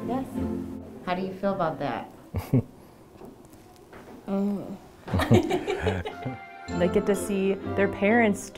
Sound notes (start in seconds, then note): 4.3 child groaning; 5.1 laughing